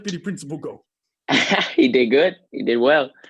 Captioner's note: chuckles